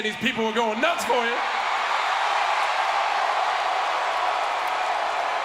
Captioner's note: crowd cheering